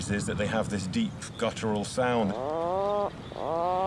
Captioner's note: puffin grumbling